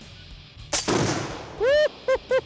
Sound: fires

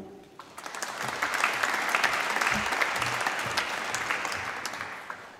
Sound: applause

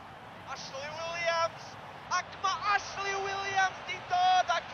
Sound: welsh-language sports commentator on tv

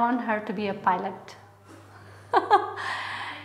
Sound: laughter

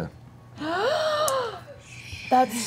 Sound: gasps

